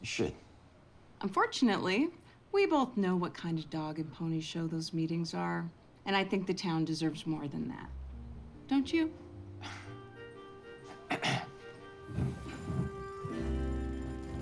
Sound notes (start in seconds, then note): 11.0 Riley clears throat